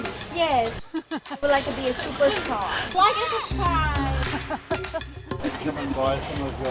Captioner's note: laughing